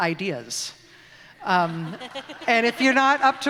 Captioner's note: laughter